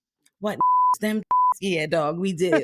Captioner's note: beep